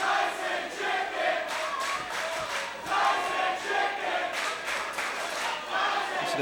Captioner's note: fans chanting